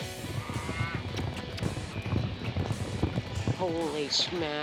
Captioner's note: hoof beats